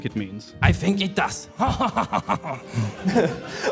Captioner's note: evil french laugh